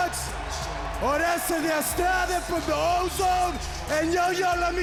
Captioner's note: Konnan speaking foreign language